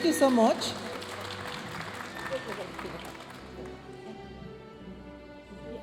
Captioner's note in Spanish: hablando en inglés; aplausos de la audiencia